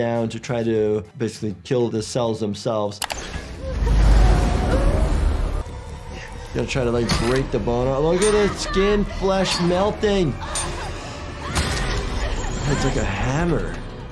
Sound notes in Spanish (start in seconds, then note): 3.2 máquina zumbando; 10.2 mujer gritando